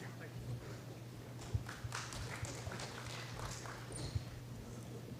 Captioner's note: applause